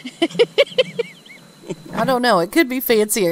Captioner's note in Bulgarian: смях